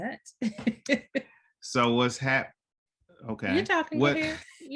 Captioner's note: chuckles